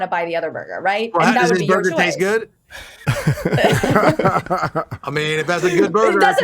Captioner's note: chuckles